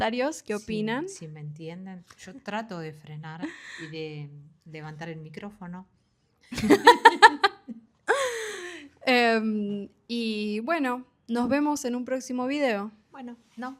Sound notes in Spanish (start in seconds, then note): 6.5 risas